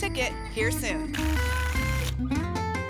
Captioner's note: tickets shuffling